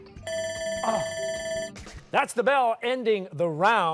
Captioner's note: bell ringing